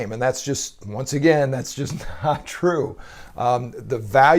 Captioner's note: laughs